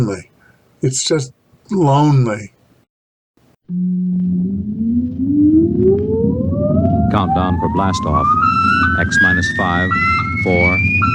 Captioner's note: old time radio play